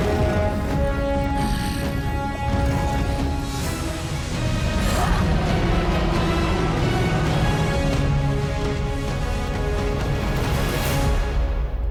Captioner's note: grunting